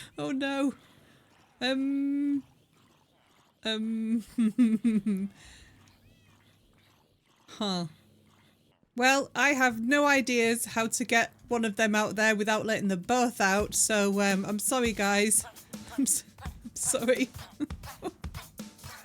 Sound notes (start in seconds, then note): 4.0 laughing